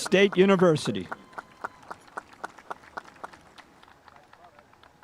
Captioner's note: spectators applauding